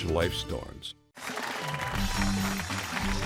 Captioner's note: cheering